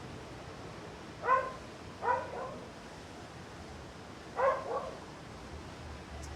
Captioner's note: dog barking